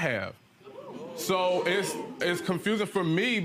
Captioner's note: audience murmurs